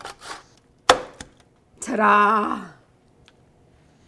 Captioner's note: grater taps